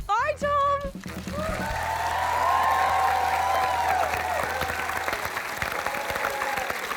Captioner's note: cheering and applause